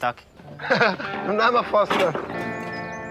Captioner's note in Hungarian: chuckles